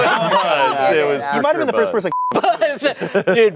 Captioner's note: beep